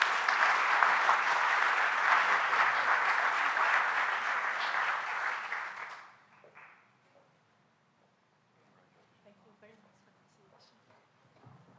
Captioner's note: applause